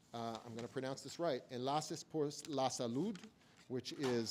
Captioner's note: speaks in foreign language